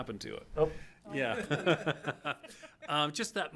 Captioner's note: all laugh